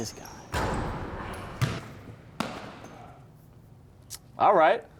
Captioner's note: ball thudding